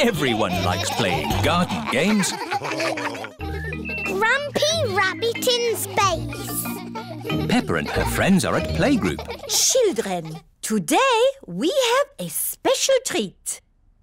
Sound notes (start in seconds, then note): 2.5 all laughing; 3.7 children giggling